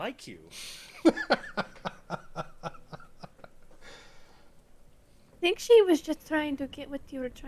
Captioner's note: laughter